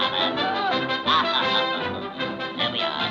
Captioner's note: chuckling